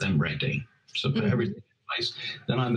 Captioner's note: audio breaks up